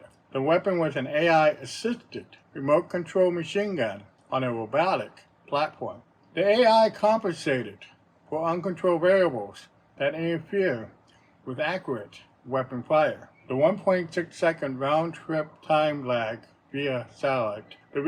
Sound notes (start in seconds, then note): none